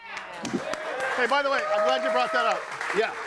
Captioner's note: audience applauding